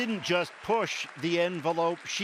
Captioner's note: applause